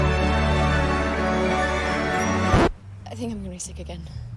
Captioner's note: record scratches, music stops